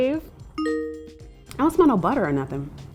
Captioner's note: bell dings